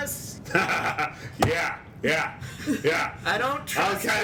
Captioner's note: laughs maniacally